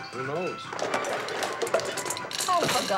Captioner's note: popcorn popping